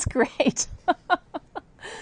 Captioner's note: laughter